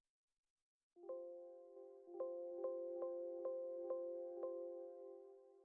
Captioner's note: computer chimes repeatedly